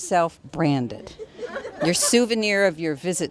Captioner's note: laughter